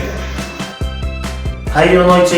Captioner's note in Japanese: ため息